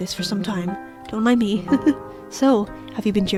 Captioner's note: laughs